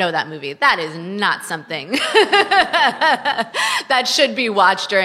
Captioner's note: laughs